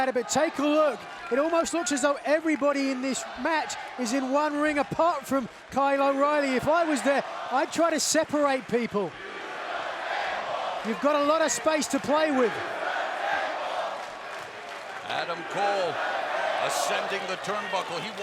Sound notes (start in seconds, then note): 9.1 fans chanting